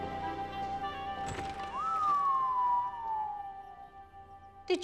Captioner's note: whistles